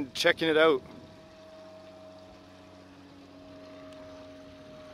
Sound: plane engine roars

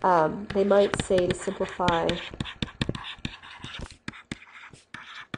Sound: scribbling

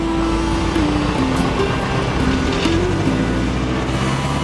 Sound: plane engine roars

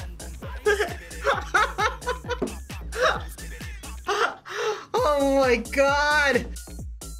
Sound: laughs

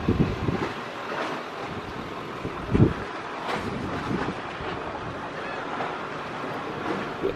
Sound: breeze blusters gently; water laps softly

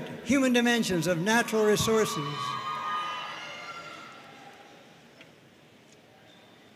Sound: audience cheering and applauding

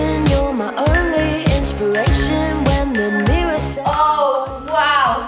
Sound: timer beeping

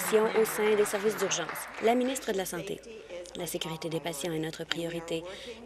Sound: applause

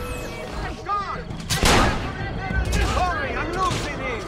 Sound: fighting sounds

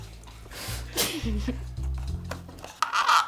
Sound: laughs

